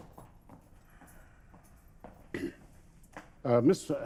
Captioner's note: footsteps departing